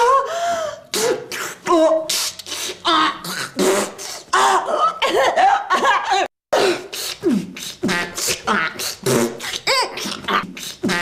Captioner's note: kooky Sounds